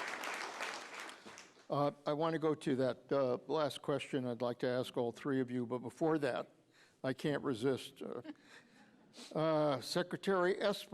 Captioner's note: applause